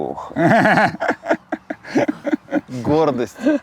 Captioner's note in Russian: Смеются